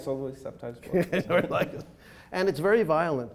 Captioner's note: laughing